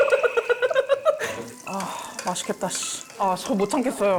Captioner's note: sizzling delicious sound